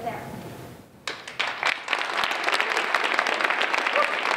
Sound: applause

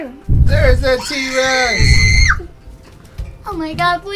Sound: screams

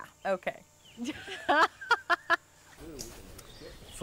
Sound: laughter

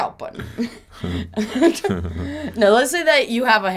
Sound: laughing

